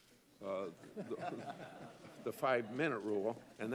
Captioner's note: laughter